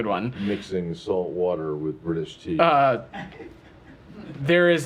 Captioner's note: laughter